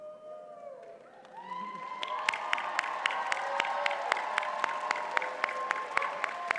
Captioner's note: audience cheers and applauds